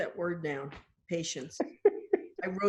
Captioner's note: laughing